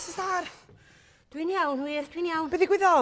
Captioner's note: out of breath